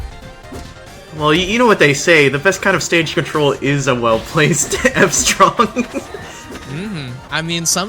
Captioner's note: laughs